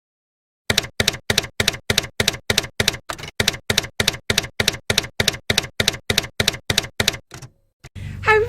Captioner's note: typewriter keys clacking